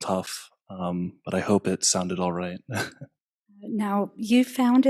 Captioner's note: laugh